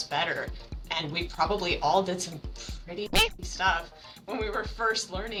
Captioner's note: meow